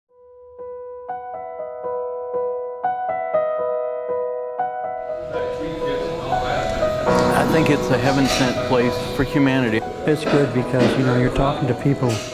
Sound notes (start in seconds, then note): 1.7 soft music; 6.0 indistinct chatter